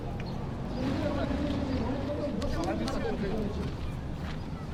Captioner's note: non-english speech